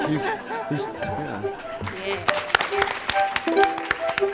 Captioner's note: laughter